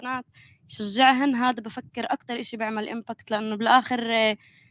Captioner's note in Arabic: لغة أجنبية